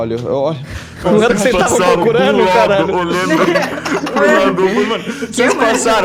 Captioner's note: laughs